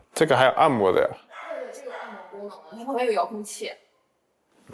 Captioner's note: in Mandarin